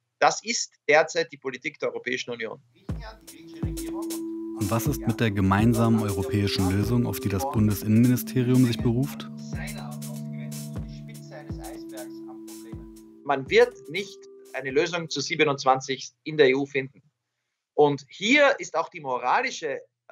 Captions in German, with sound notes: Das ist derzeit die Politik der Europäischen Union." (Bewegte Musik) Und was ist mit der gemeinsamen europäischen Lösung, auf die das Bundesinnenministerium sich beruft? (Bewegte Musik) (gedämpft:) "Die Spitze eines Eisbergs an Problemen. Man wird nicht eine Lösung zu 27igst in der EU finden. Und hier ist auch die moralische